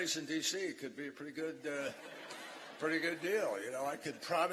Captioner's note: laughter